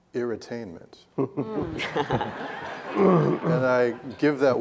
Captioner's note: laughing